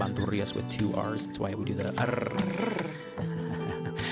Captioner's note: rolls tongue